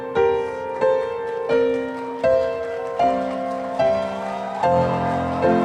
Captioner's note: audience applauding